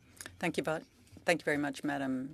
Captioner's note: speaking French